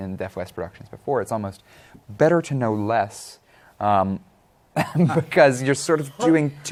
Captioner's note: chuckling